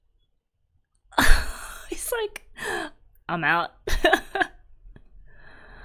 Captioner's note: laughs